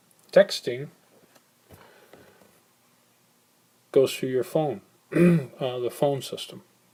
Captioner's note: clears throat